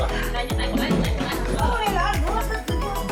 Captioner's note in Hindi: स्लर्प्स्स